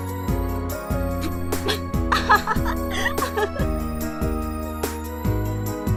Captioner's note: laughing